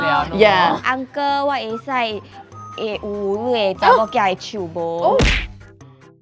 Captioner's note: In terrible Hokkien